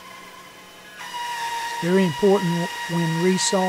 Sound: machine operating

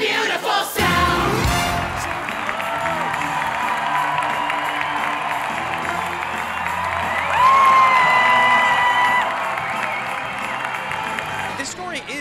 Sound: applause; cheers

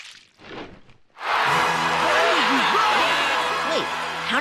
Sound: applause

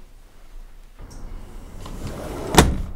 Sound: door closes

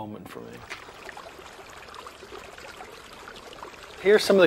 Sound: water splashing

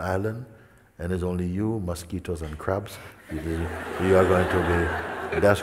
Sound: smijeh

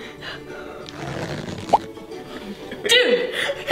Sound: glob squishing

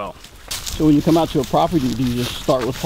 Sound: voiceover

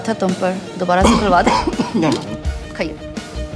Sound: coughs

